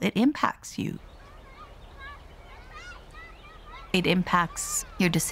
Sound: children playing - in the distance

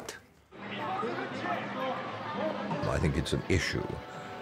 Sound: people chattering

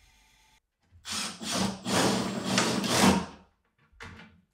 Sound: drill whirring

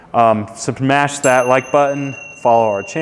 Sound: notification chime

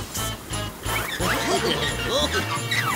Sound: giggling

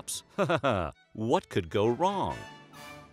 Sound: laughing

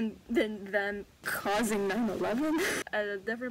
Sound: megaphone effect

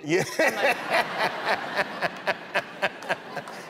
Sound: laughter

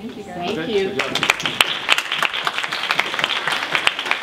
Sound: applause

